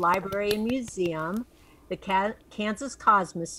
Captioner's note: claps